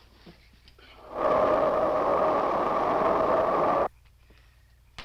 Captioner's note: wind rushing